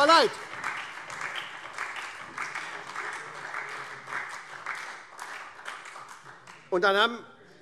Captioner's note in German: Beifall SPD